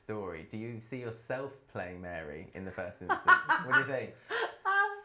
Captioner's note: laughs